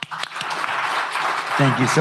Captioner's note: applause